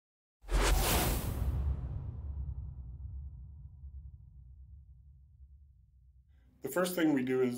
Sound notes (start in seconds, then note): 0.4 whooshing sound